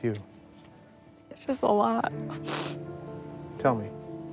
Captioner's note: sobbing